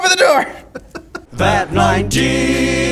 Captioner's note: laughing